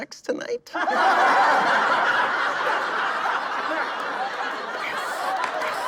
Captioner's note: audience laughing